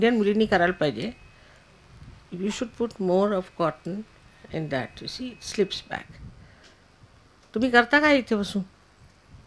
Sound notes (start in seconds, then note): 6.9 Hindi